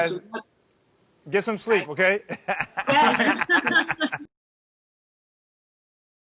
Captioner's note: laughing loudly